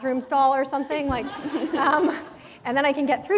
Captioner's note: laughter